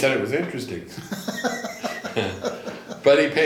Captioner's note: laughing